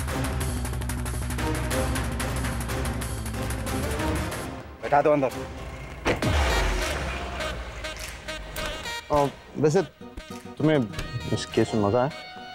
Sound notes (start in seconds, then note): 5.5 Car pulling out; 6.0 Door closing